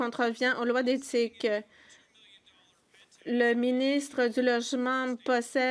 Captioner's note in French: voix de l'interprète